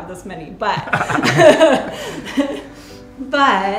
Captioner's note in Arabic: يضحك